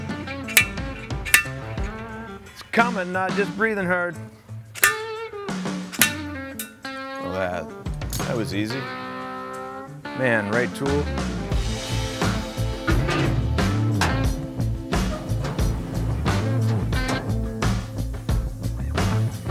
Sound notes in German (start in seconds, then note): 4.7 Metallisches Klirren; 4.9 Country-Musik geht weiter; 12.8 Country-Musik geht weiter; 12.8 Metallisches Klirren